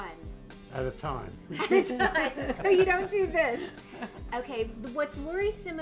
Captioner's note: laughter